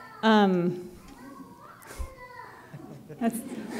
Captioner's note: little kid talking loudly; chuckles; laughter